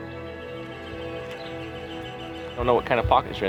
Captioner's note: birds chirp